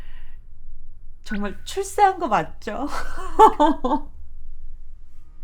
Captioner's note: laughs